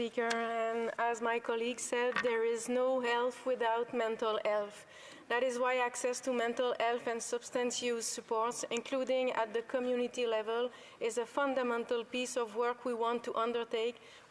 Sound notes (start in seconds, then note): 3.8 speaking French